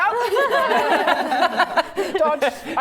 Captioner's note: laughing